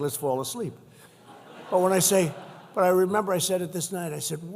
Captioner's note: laughter